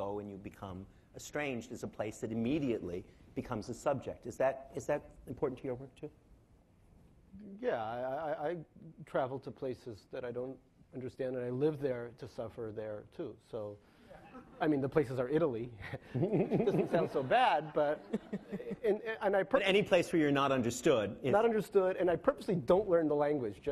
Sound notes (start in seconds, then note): 18.5 laughing